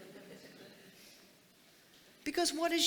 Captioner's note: audience chuckling